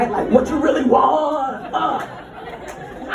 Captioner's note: in a DMX voice